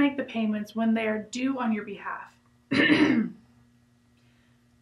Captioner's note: clears throat